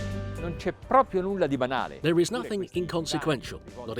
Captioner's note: speaking in foreign language